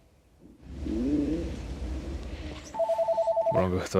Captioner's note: stomach growling